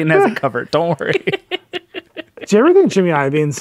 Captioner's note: laughing